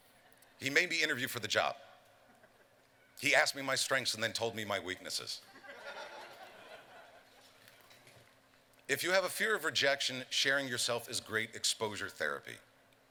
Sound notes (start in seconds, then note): 5.4 laughter